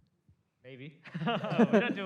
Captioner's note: laughter